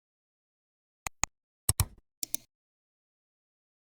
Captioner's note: 3 different clicks